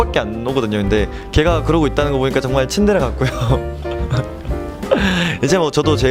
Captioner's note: laughs